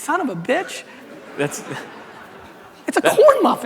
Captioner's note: audience laughter